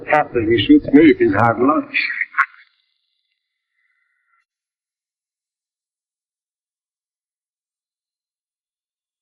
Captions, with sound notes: - After he shoots me, it is hard luck. (laughing)